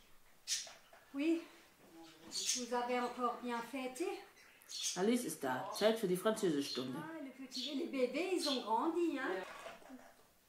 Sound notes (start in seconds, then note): 3.4 speaking french; 8.8 speaking french